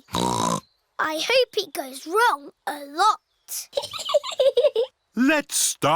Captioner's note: snorts; chuckles